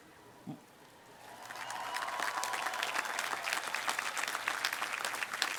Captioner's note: applause